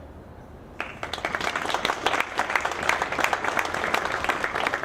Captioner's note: audience clapping